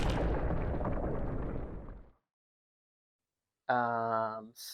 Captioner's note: explosion